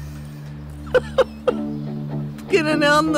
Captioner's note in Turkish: Gülme sesi